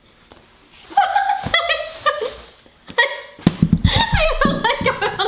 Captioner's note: laughing